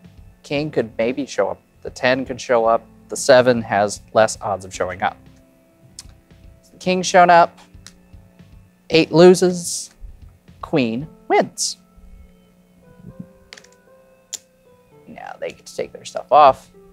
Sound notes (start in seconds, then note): 7.6 card slaps; 13.5 tokens clattering